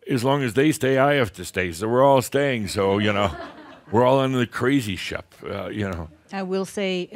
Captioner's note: some chuckles